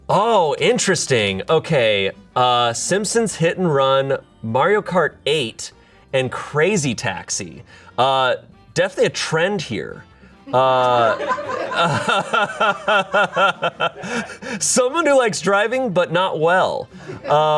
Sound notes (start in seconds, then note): 10.5 audience laughing; 17.0 audience laughing